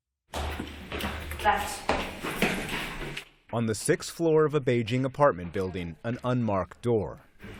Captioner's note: voice-over